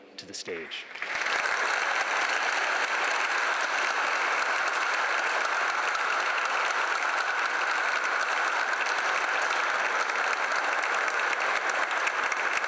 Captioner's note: applause